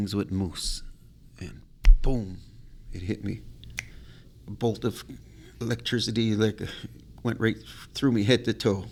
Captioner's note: snaps fingers